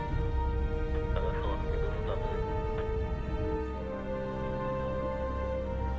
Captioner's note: man speaking in foreign language